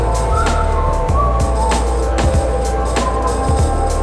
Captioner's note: whistles